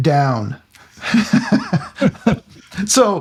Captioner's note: laughing